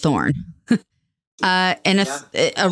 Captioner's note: laughing